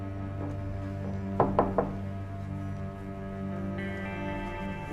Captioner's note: soft music; hand knocks